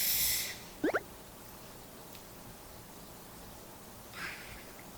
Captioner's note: choked up